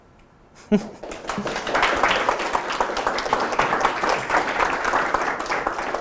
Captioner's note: applause